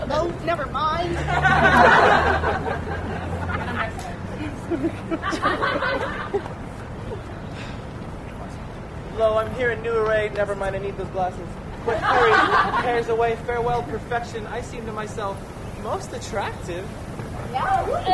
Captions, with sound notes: Oh, never mind! [laughter] Lo, I’m here in a new array--never mind, I need those glasses-- [laughter] Quick, hurry, cares away; farewell, perfection! I seem to myself most attractive!